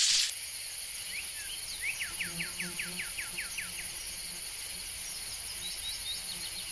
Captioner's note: screen crackles; birds chirping; bugs buzzing